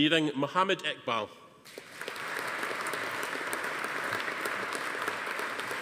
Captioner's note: audience applauding